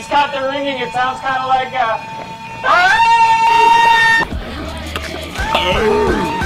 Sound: shriek

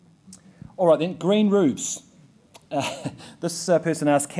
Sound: laughs

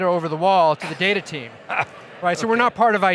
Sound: laughing

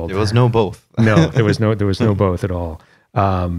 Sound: laughter

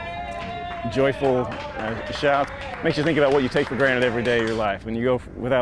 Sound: cheering

